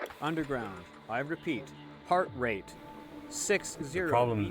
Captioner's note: voiceover